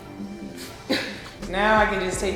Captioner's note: chuckles softly; water sprays